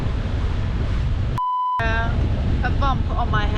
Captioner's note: tone beeping